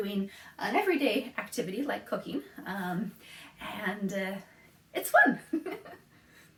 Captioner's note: laughs